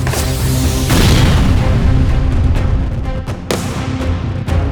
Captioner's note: gunshots firing